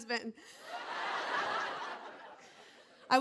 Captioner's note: laughter